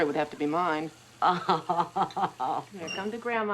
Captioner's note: laughs